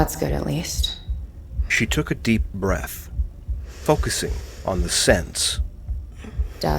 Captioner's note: Ilani takes a deep inhale